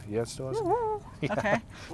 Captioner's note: hoots